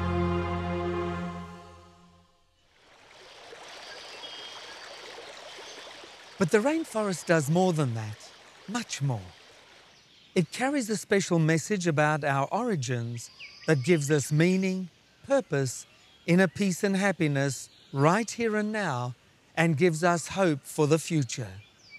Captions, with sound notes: (water trickling) (birds chirping) But the rainforest does more than that. Much more. It carries a special message about our origins that gives us meaning, purpose, inner peace and happiness right here and now, and gives us hope for the future.